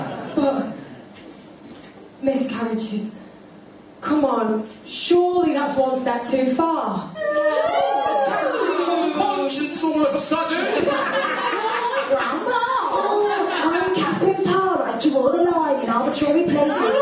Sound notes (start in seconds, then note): 10.5 laughter